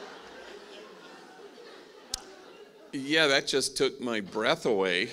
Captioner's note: laughing